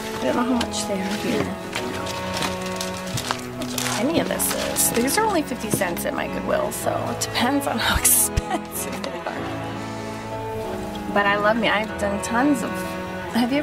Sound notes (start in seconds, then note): 8.0 laughs